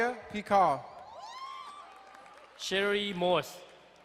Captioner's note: crowd cheering and applauding